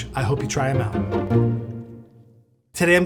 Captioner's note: bright music; graphics pop